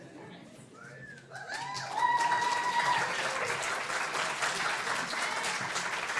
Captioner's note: applause